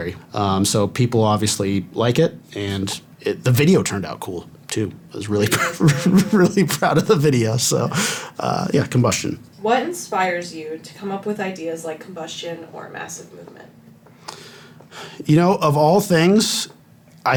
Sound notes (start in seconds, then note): 5.4 laughing